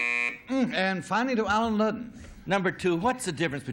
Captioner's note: buzzer